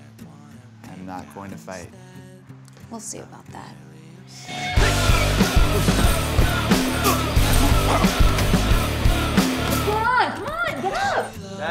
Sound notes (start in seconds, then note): 5.8 scuffling ensues